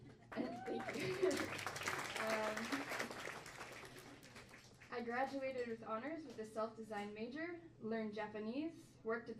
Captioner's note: crowd bursts into applause